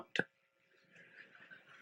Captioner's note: laughter